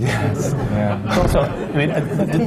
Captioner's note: laughter